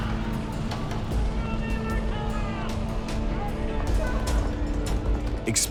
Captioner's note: shouting